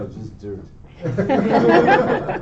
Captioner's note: laughter